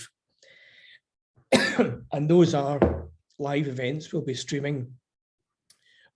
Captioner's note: coughs